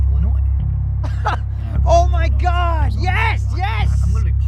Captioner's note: laughs